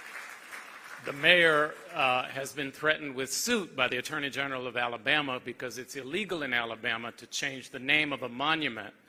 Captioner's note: applause